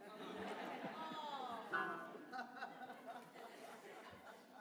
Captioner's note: laughter